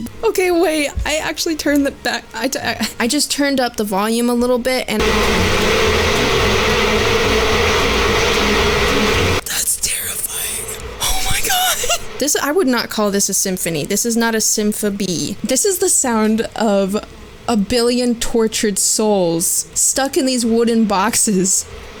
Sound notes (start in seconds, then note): 0.0 more "beebox" scatting; 1.9 stammering; 5.0 overwhelming buzz of swarms of bees; 9.4 whispers